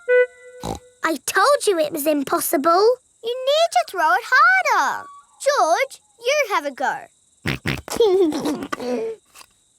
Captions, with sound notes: (SNORTS) I told you it was impossible. You need to throw it harder. George, you have a go. (SNORTS AND LAUGHS)